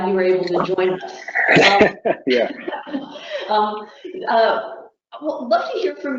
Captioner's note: chuckling